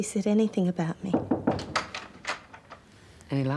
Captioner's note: knock at door